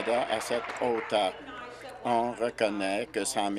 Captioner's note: applause